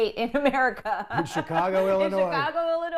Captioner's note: laughter